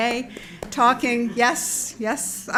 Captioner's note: claps